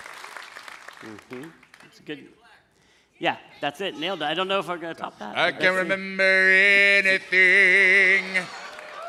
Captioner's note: applause